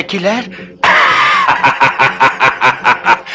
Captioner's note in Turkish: Kahkahalar